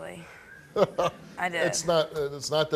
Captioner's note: laughing